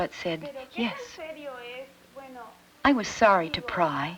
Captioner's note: speaking Spanish